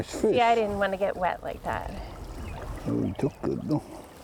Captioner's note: river gushing